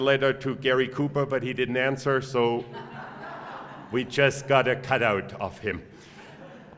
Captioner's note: laugh